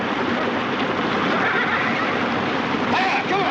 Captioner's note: neighing